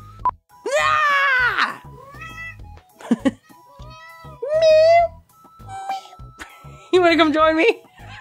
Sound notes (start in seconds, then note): 2.9 chuckles; 3.3 mew